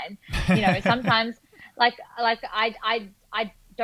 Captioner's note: laughing